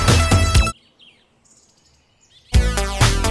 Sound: birds chirp; upbeat music

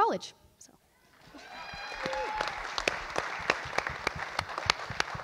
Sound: audience applauds

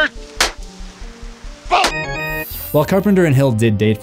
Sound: ax chopping

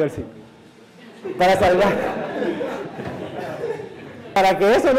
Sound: laughter

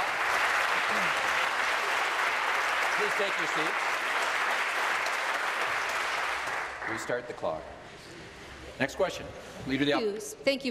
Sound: applause

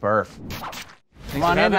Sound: whooshing

